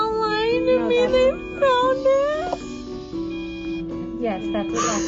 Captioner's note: sobbing